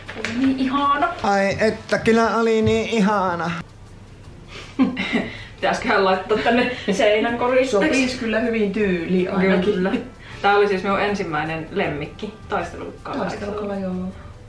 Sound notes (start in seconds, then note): 4.6 giggling